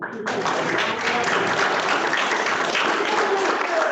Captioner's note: applause